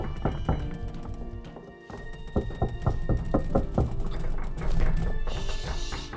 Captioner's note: door banging; solemn music